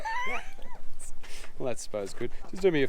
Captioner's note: laughing